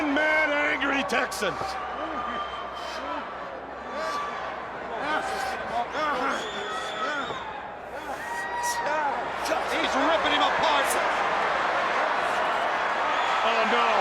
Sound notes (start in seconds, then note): 0.6 crowd chatter